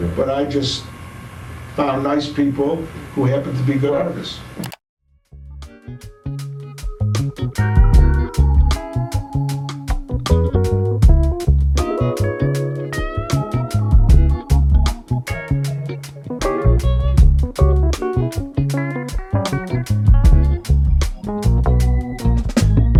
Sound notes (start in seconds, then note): 4.6 scene clicking; 6.5 relaxing jazzy music